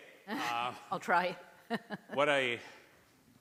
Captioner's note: laughter